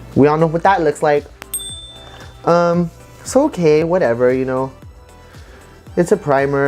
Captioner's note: ding